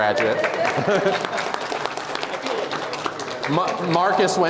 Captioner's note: applause